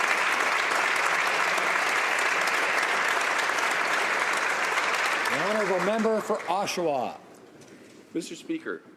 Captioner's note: applause